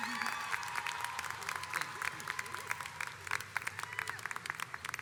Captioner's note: audience applauds